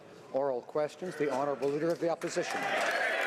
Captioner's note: some Applause